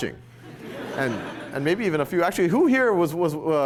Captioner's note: laughter